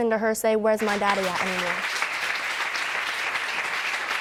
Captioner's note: audience applauding